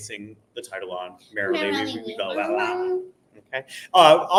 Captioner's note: both mumbling